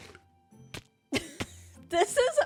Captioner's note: laughs